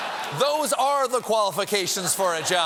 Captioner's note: laughter